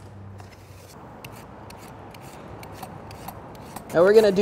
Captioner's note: peeler slashes